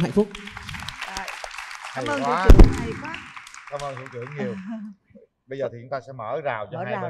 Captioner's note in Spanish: Aplaudir